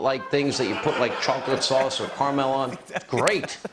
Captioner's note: laughter